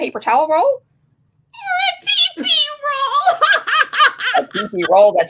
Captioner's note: laughing